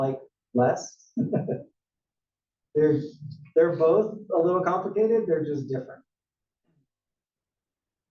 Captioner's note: laugh